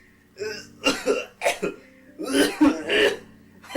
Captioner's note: hacking Coughs